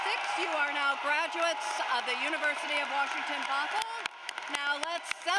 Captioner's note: cheering and applause